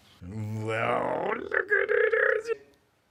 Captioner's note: excited nuzzling sounds